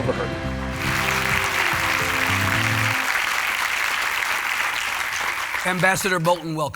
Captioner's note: light uplifting music; audience applauding